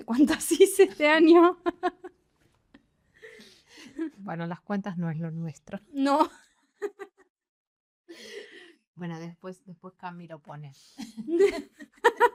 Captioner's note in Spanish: risas